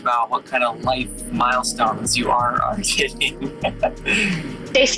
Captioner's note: laughs